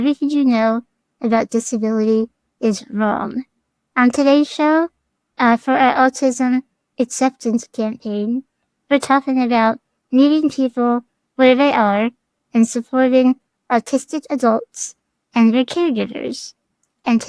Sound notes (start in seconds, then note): none